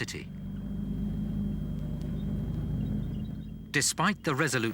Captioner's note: engines rumbling; wheels squeaking